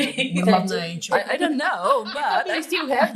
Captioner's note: laughing